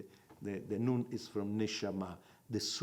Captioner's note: in Hebrew